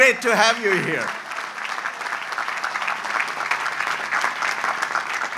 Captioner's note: audience applauds